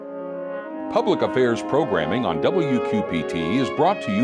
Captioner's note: voiceover